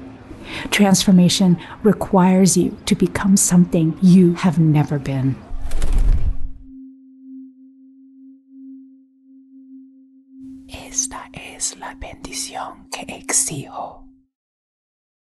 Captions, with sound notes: Transformation requires you to become something you have never been. (bird wings fluttering) Esta es la bendición que exijo.